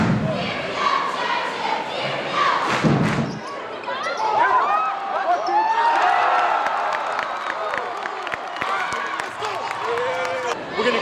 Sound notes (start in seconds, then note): 4.4 crowd cheers; 6.1 crowd claps